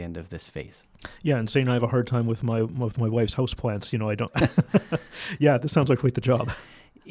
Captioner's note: chuckles